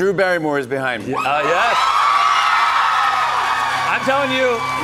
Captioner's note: cheers and applause